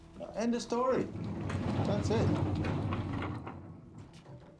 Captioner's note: none